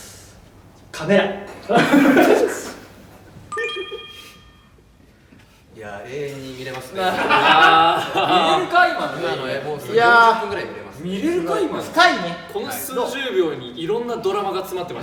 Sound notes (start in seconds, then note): 1.6 staff laugh